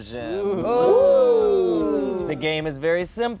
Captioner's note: ooh-ing collectively